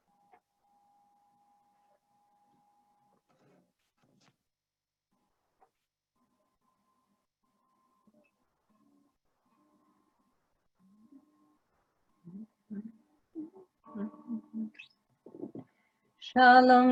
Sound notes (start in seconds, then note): 9.3 guitar strumming; 9.3 humming